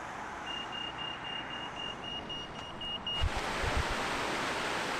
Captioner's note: traffic noise; crossing beeping; running water